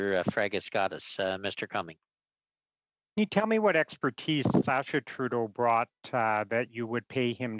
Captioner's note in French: voix de l'interprète